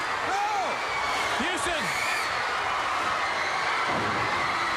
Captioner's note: crowd cheering